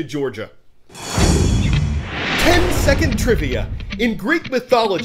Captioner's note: voice-over